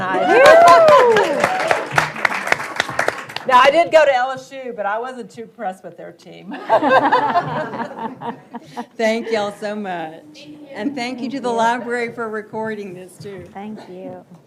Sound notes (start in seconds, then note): 0.0 audience applauds and cheers; 6.5 audience laughs